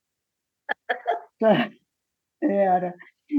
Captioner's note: laughter